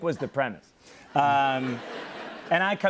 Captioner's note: laughter